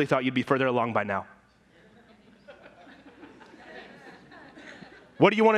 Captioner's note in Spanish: risas y murmureos de la congregación